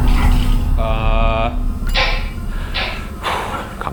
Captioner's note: ghostly whispering; object knocking; object clacking; sighs